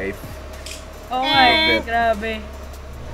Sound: buzzer noise

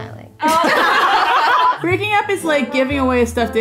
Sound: laughter

